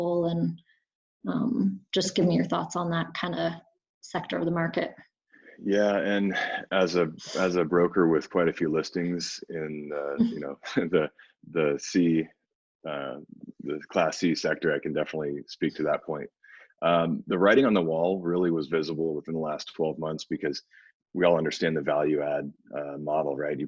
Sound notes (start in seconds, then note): 12.2 laughs